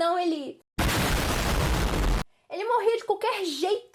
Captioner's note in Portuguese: Explosão